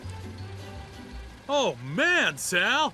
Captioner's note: car idling